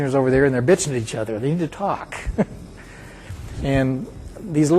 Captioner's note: chuckling